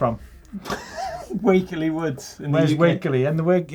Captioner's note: laughing